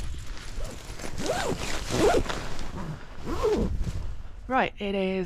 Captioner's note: zipper